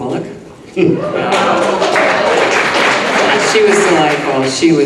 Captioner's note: audience clapping